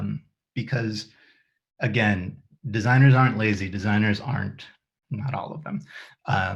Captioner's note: mumbles: not all of them